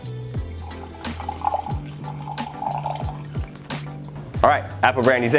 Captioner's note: liquid sloshing